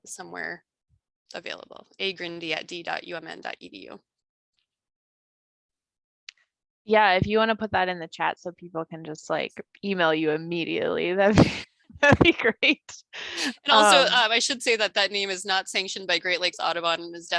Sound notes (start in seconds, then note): 13.3 laughs